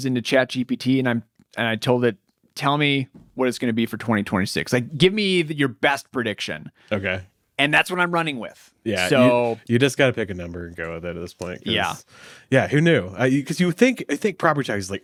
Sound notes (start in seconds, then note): none